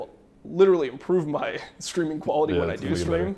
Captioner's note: laughs